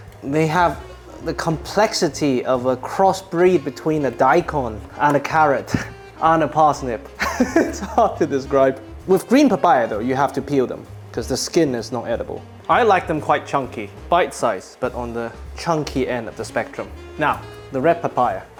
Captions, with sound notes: they have the complexity of a cross breed between a daikon and a carrot and a parsnip. [laughing] It's hard to describe. With green papaya though, you have to peel them because the skin is not edible. I like them quite chunky, bite size but on the chunky end of the spectrum. Now, the red papaya.